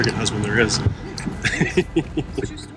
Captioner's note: laughs